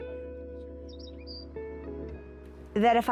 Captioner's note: bird Sounds